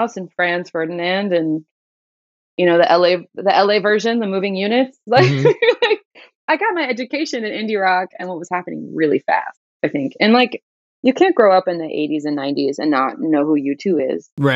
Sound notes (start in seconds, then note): 5.1 laughter